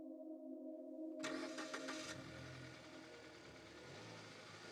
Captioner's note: car starting